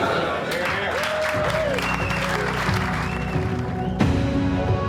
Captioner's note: group cheering; dramatic music